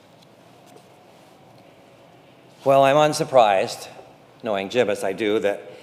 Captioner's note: none